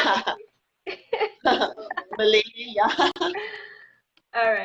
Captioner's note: laughing